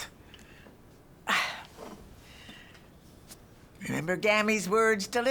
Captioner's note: sighs